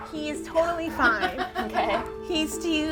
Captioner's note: woman laughing